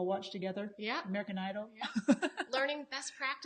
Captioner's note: laughs